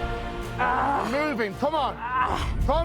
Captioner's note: grunting